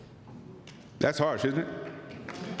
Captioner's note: applause